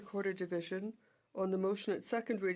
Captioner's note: speaking French